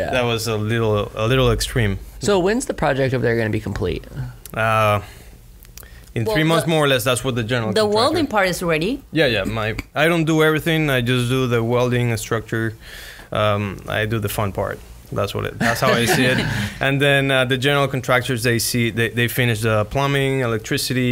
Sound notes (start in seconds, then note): 15.6 laughs